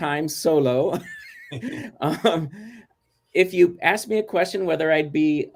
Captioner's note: laughter